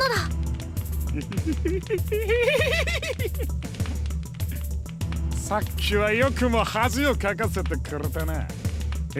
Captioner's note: creepy villain laugh